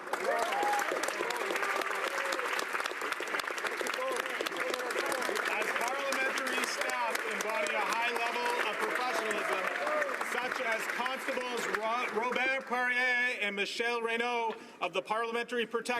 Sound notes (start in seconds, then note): 3.2 applause; 13.3 applause